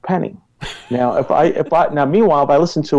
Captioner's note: laughs